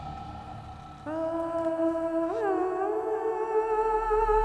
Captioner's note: door creaks